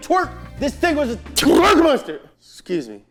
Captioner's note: sneezes